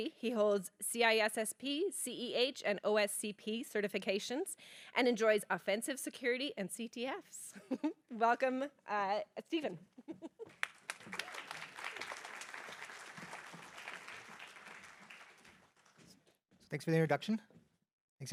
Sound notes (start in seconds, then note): 9.9 laughs; 10.4 applause